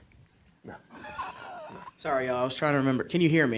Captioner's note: chuckling